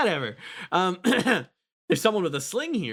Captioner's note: clears Throat